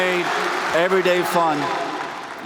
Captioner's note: cheers and applause